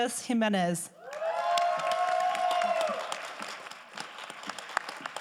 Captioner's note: crowd applauding